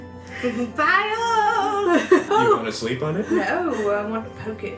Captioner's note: Liliana laughs